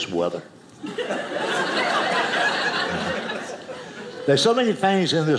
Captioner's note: audience laughing